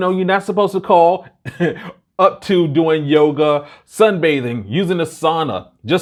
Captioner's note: chuckles